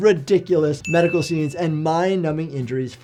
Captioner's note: bell dings